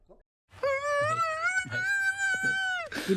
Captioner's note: crying